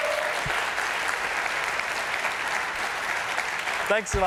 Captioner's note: cheers and applause